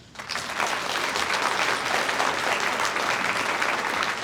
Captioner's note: audience applauds